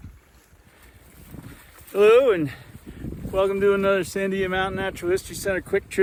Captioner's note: wind noises